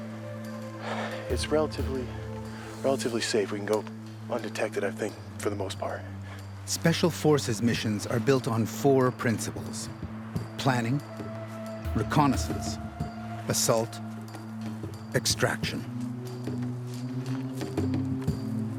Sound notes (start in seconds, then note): 4.8 voiceover